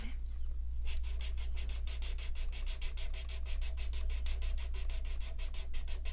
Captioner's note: marker sounds